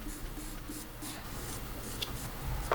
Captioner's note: gentle brushing